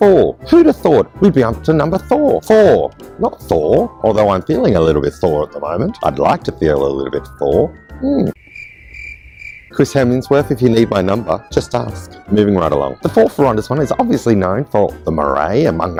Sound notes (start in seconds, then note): 8.3 cricket sounds